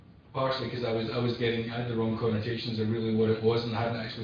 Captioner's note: audio distorts